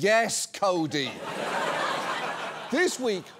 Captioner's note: audience laughs